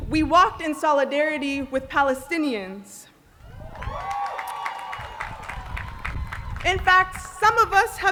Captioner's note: applause